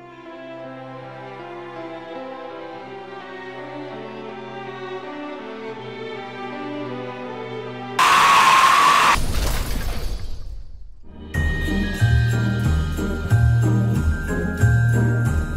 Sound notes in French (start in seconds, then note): 8.0 Hurlement; 11.3 Musique de Noël